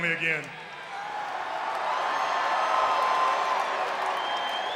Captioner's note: crowd cheering